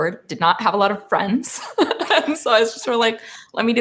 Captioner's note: laughs